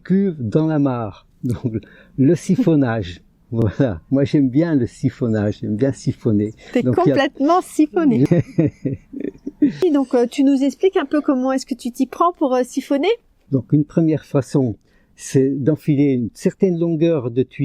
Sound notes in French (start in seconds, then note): 8.2 rires